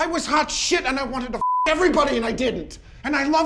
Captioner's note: beep